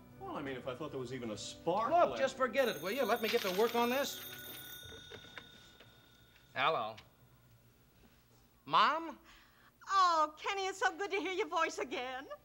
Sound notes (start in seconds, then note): 4.3 telephone ring